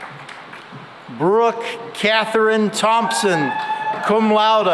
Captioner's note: cheering and applause